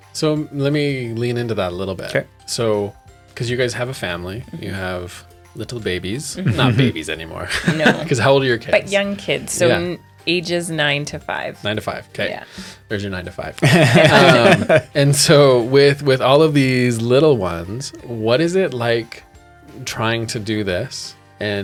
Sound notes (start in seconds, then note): 7.4 laughs; 13.6 laughter